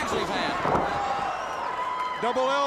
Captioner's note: crowd cheering